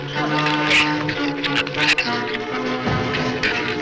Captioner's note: shrew snarls